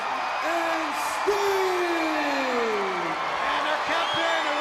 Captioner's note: crowd cheering